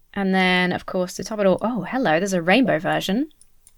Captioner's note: none